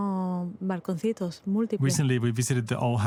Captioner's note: speaking Spanish